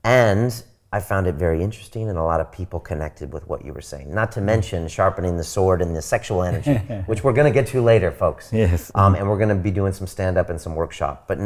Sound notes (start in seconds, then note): 6.4 laughing